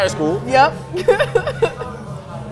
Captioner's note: laughs